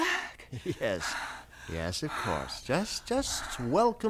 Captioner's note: chuckling